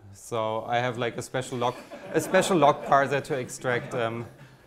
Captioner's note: audience laughs